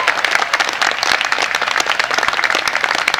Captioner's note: applause